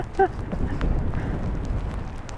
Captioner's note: laughs